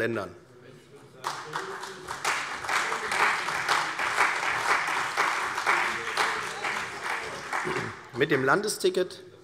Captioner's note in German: Beifall CDU und vereinzelt BÜNDNIS 90/DIE GRÜNEN